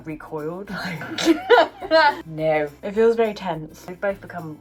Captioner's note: laughs